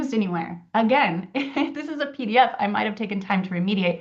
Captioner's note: chuckles